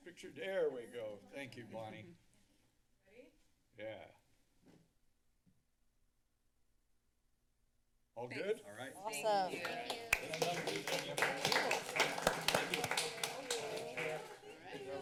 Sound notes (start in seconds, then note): 4.9 background conversations; 9.5 applause; 10.3 background conversations